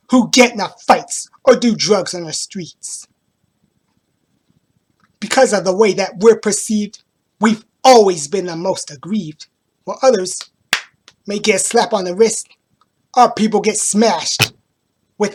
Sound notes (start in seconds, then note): 10.7 slap; 14.4 thud